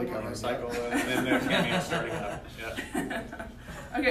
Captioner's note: laughter